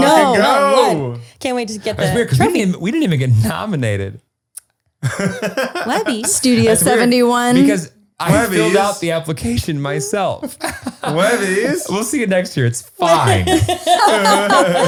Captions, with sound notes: I know can't wait just to get it. - We didn't even get nominated. (laughing) - Levy studio 71. - I got the application myself. We'll see you next year, it's fine.